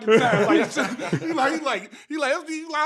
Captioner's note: laughing